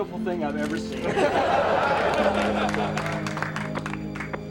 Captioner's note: crowd laughing